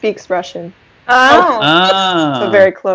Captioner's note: resounding ah's, oh's